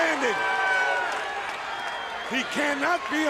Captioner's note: crowd cheering